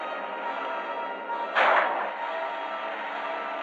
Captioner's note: gunshot